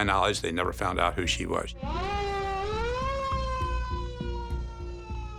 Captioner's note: siren blaring